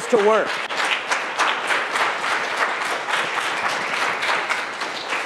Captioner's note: applause